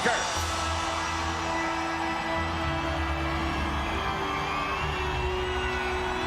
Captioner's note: crowd cheering; dramatic music